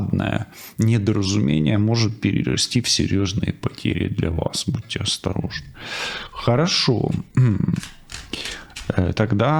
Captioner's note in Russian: откашливается